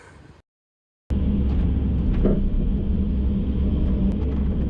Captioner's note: excavator rumbling